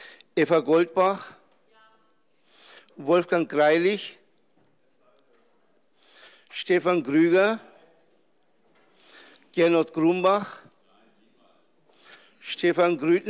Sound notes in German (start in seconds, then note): none